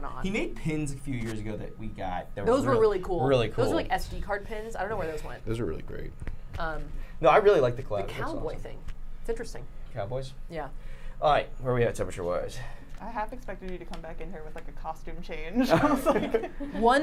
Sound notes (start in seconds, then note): 15.6 laughs